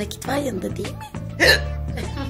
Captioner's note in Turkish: hiçkirma sesi̇